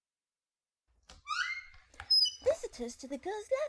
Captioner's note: door squeaks